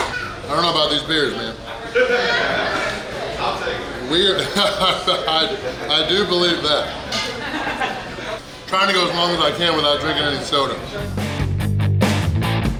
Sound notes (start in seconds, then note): 1.8 hahaha